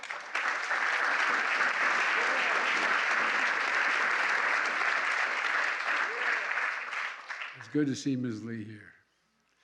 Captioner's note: applause